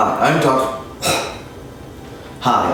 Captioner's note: cough